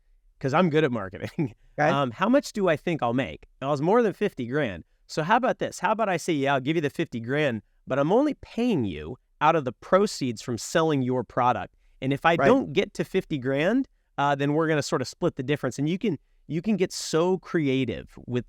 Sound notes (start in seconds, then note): 1.6 chuckles